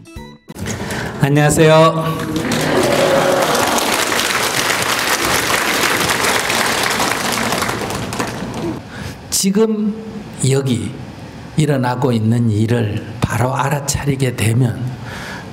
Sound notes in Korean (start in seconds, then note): 4.9 청중 환호와 박수